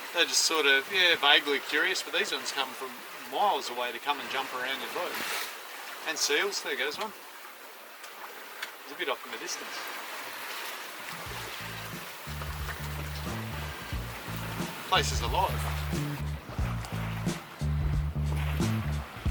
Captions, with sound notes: they're just sorta vaguely curious, but these ones come from miles away to come and jump around your boat. And seals, there goes one. It's a bit off in the distance. (water splashing) (lively rock music) Place is alive.